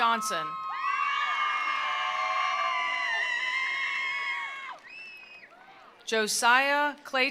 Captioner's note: attendees cheering; attendees applauding